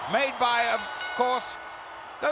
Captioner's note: bell rings